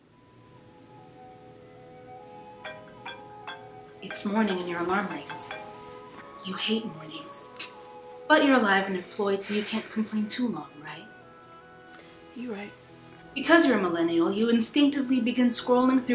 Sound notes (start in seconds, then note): 2.5 phone chiming